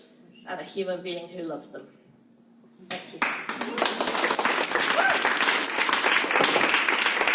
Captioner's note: applause